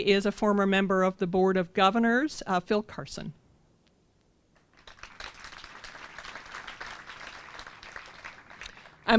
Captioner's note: applause